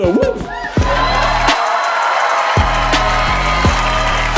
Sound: clapping and cheering

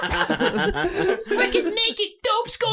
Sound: laughter

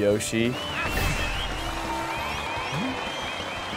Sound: cheering

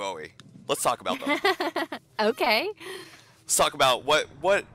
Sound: light laughter

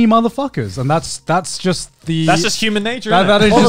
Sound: all laughing

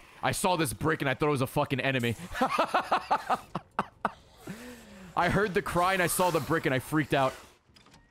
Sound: laughs

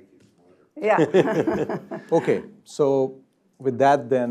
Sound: laugh

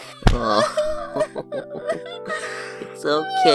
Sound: chuckles

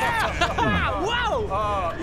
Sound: gulp

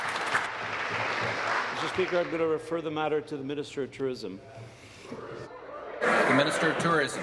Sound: applause

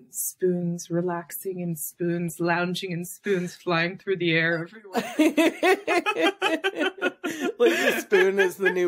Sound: laughs

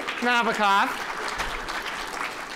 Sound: applause

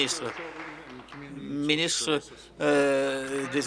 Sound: applause

